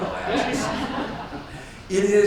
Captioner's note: audience laughs